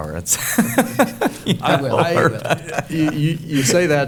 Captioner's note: chuckling